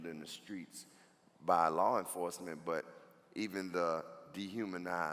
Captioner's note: none